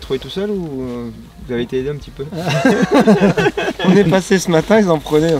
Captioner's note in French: rires